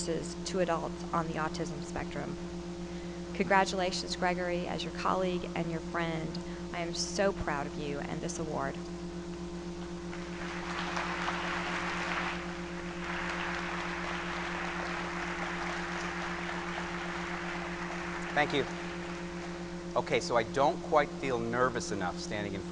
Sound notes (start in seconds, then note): 10.2 applause